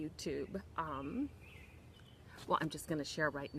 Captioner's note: birds chirping